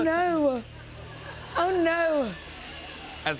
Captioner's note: laughter